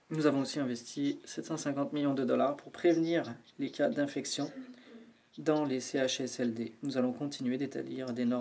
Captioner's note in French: voix de l'interprète